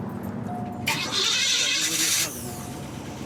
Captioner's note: engine starting